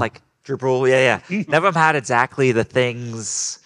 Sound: group laughing

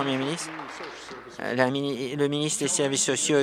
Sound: applause

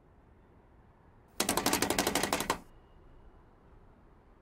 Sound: typing

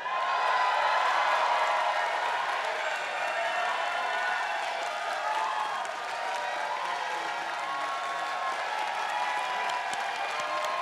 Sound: applause

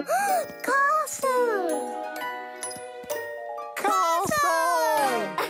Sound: gasps

